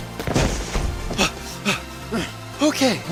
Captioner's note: huffing, puffing